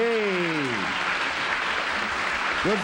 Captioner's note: applause